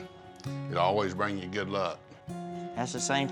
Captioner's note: none